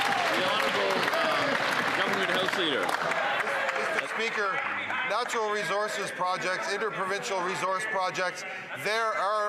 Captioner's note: some Applause